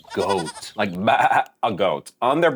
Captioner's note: mimics goat bleating